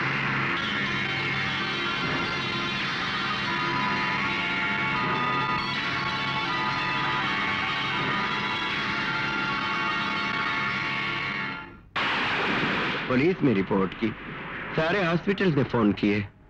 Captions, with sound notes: (Thunder crashing) I lodged a police complaint and called up all hospitals also.